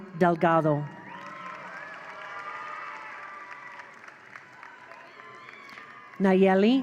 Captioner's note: attendees cheer; attendees applaud